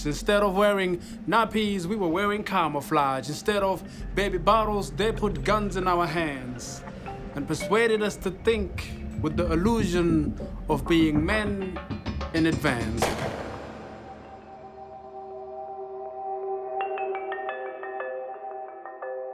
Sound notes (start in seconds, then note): 13.0 rifle firing